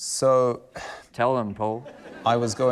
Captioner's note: laughter